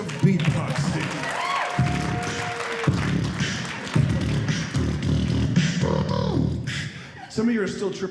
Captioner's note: beat boxing